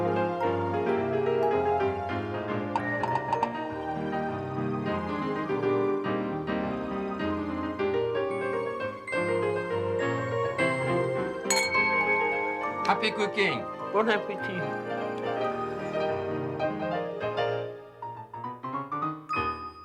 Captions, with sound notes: (clink) - Happy cooking! - Bon appetit. (bright piano music)